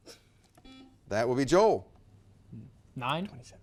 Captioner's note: whispers; buzzer beeps